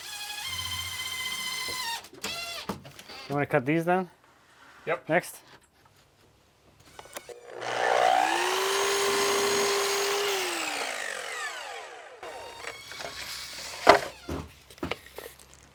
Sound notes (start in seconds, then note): 0.0 drill buzzing; 6.8 saw whirring; 12.7 drill whirring